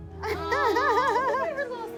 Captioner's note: laughs